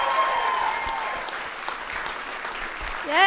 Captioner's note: cheers and applause